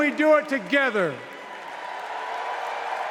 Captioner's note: cheers and applause